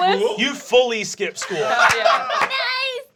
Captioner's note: laughing